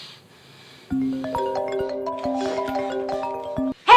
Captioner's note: phones ringing